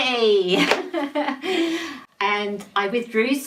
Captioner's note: laughs